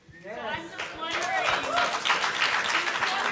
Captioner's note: applause; audience applause